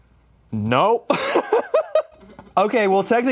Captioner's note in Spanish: ríe